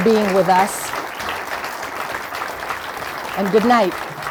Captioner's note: applause